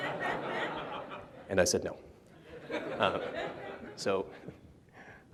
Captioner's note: laughter; laughter